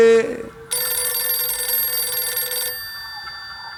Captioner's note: ring